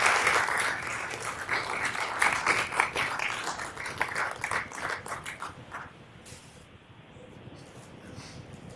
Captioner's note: applause